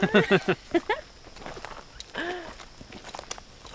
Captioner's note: laughing